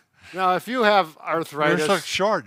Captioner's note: laughs